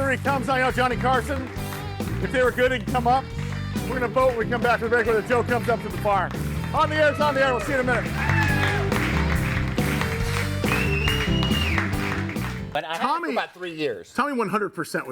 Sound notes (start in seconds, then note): 8.8 audience applauds and cheers; 9.8 upbeat music